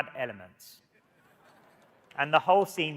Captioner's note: audience laughing